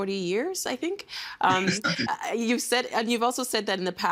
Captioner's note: chuckling